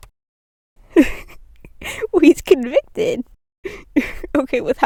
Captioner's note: laughing